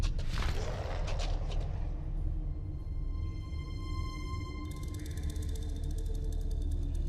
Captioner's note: suspenseful music; wings fluttering